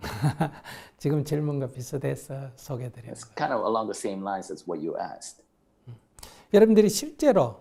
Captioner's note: laughter